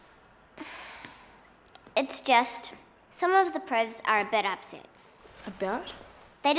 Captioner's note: sighing